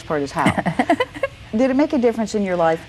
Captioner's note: laughs